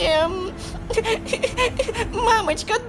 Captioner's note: cries